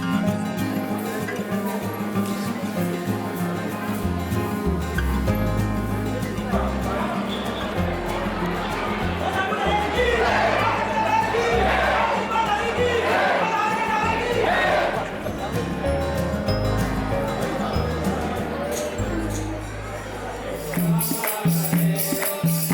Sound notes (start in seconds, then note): 0.3 upbeat music; 13.9 crowd chanting; 13.9 upbeat music